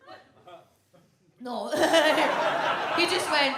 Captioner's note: laughs; audience laughs